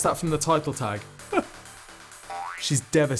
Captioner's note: crying